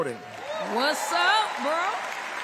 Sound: applause; cheering

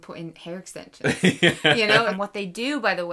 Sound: laughing

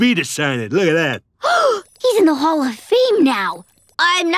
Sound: gasping

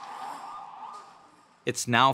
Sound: sirens blaring

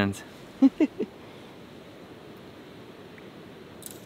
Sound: chuckles

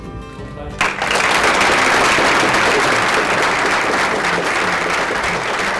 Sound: applause

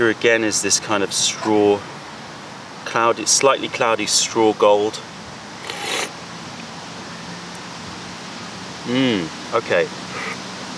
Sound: sips tea

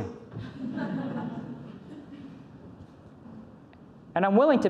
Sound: audience laughs

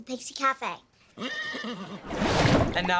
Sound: neighing

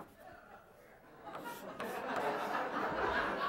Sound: laughter

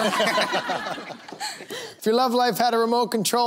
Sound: laughter

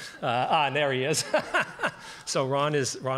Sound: laughs

